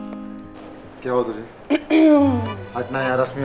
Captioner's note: Asmi clears throat